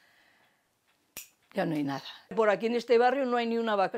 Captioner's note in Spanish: chasquido